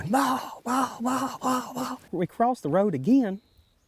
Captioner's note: turkey calling